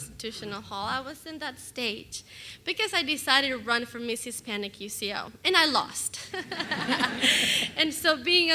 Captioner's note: laughter